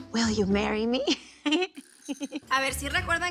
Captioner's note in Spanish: Risas